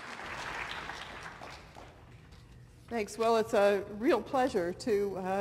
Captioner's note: applause